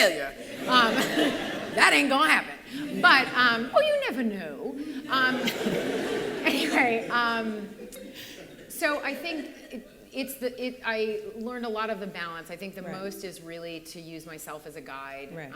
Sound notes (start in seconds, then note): 0.1 laughter; 4.9 laughter